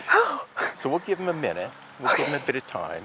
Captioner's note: both laughing; sighs